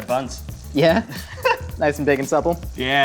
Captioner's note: laughing